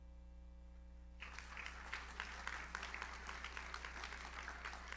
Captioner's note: audience applauds